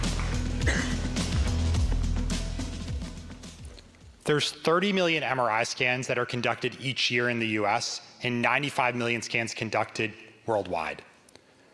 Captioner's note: applause